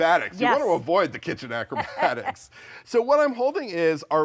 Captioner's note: laughing